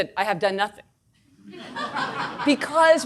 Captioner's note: audience laughing